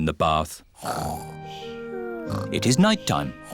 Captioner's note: snoring